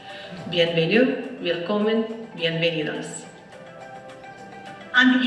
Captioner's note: speaks in foreign language